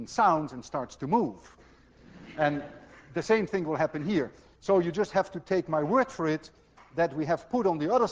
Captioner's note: class laughs